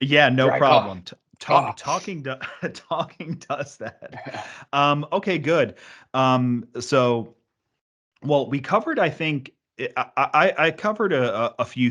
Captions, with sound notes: - Yeah, no problem. Talking does that. (laughs) Okay, good. So, well, I covered a few things.